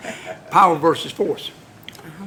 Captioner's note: laughter